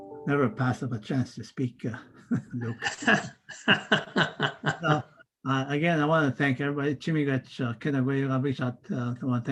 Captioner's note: foreign language